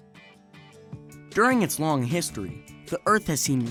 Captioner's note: electric guitar music; voiceover